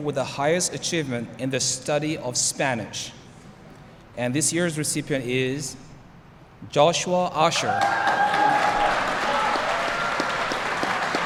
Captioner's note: applause